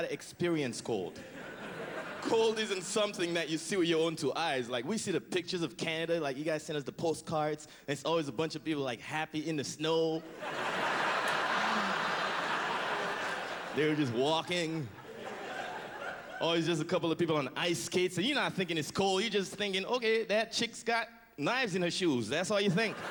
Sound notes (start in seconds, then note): 10.3 howling laughter